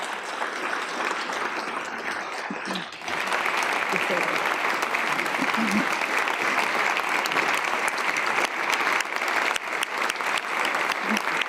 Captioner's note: laughter; applause